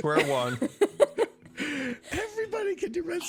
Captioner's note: laughter